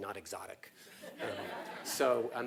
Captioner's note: laugh